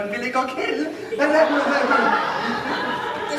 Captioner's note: laughter